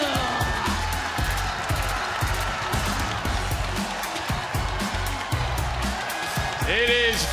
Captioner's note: cheers